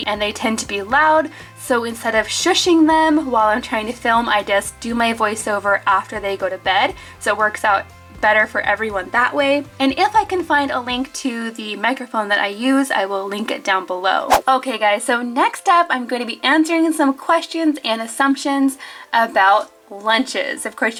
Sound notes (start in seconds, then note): 14.2 air whooshes